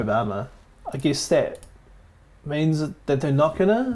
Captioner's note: mouse clicking